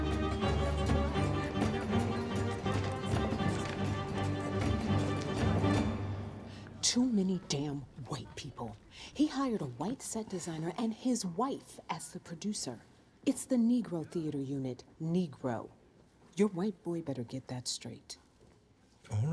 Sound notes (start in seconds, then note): 0.0 indistinct chatter